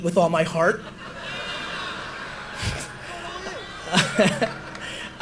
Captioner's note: audience laughter